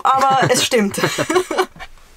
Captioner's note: laughter